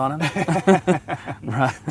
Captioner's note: laugh